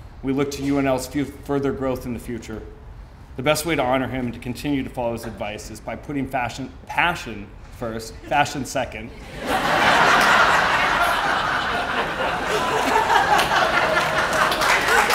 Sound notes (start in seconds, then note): 9.1 audience laughing